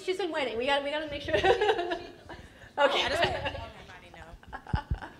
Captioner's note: presenter laughs